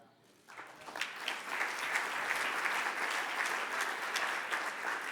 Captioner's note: audience applauds